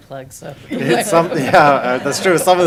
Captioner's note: laughing